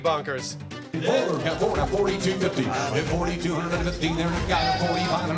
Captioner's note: rapid auctioneering